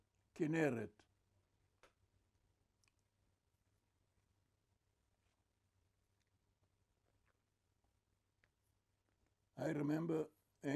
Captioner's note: pauses 8 seconds